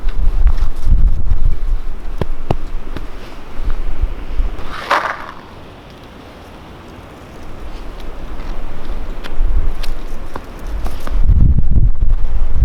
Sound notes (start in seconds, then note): 4.6 packet rustling